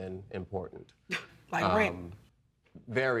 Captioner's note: scoffs